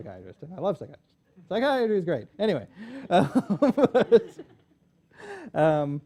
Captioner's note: laughs